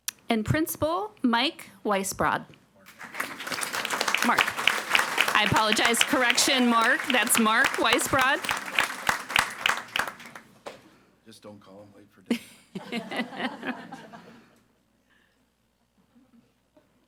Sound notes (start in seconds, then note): 3.0 audience applauding; 8.7 audience applauding; 12.8 audience laughs